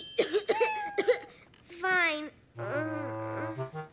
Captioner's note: cough, cough; moans